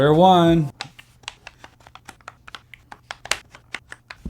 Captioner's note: buttons clicking